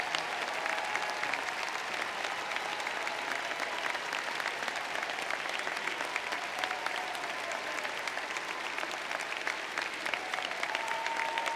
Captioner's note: applause